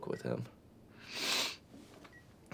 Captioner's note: Ashley snivels